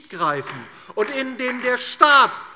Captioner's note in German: Beifall DIE LINKE